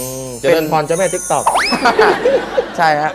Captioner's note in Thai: เสียงหัวเราะ